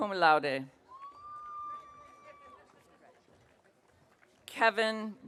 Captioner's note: audience cheering